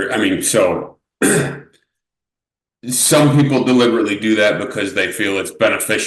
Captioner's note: clears throat